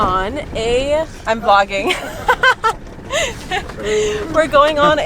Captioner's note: laughing happily